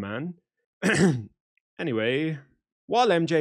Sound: ahem

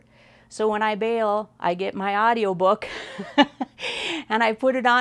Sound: laughs

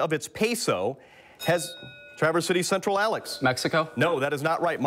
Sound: bell rings

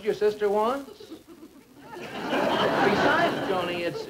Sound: audience Laughing

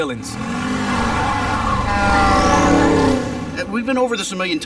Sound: engine revving

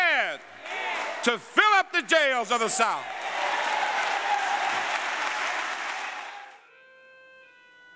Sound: applause

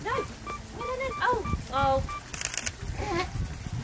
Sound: beeps; camera shutter click

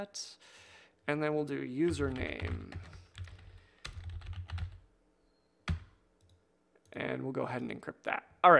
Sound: typing

